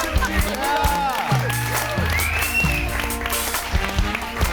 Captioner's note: audience cheers; upbeat music